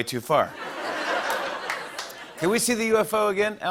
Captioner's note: laughter